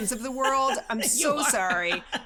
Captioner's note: laughing